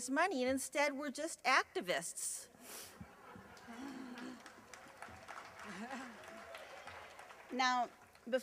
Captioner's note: laughter and slight applause